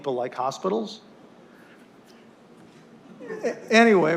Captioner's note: laughter